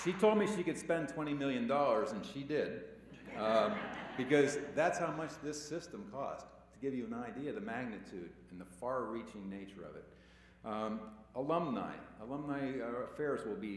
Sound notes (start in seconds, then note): 0.0 cheers and applause; 3.1 laughter